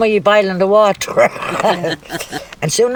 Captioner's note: laughs